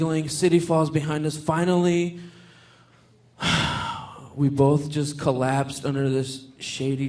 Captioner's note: sighs